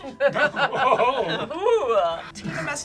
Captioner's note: group laughs